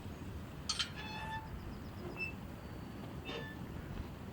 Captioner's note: metal squeaking